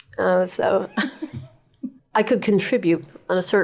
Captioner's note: laughing